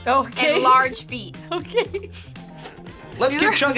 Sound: laughs

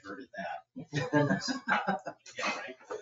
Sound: people chuckle

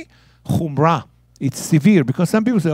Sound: speaking in Hebrew

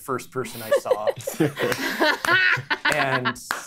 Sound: players laughing

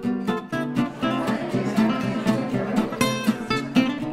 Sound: chattering

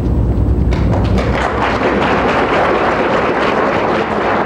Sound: audience applauds

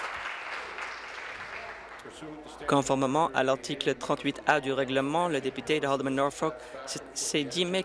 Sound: applause

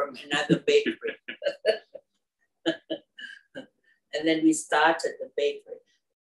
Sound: laugh

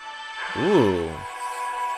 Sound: start Windows sound

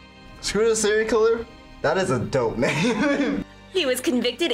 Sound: laughs

